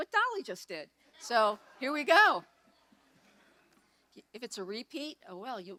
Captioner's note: audience laughs